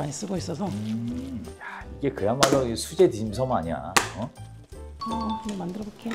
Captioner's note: slap!